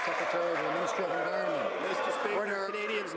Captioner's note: some Applause